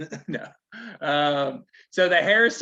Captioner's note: laughing